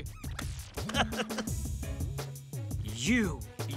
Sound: chuckles stiffly

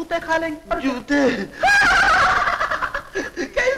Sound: laughing

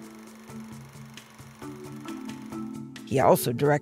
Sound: reel grinding; soft music

